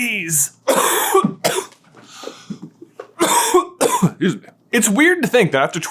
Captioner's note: coughing deeply